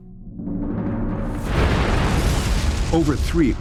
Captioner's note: boom